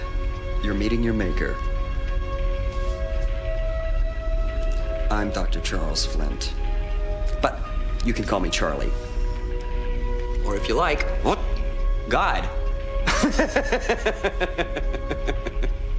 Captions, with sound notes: You're meeting your maker. I'm Dr. Charles Flint. But you can call me Charlie. Or if you like, God. (laughter)